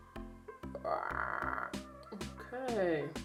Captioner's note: pterodactyl Sound